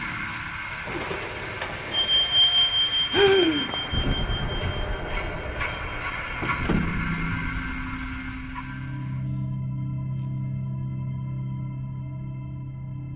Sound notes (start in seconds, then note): 1.1 elevator clanks and dings; 3.1 Max gasping; 6.7 elevator clanks; 8.8 soft dramatic music